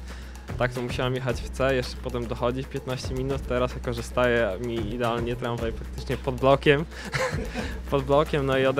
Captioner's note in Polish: śmiech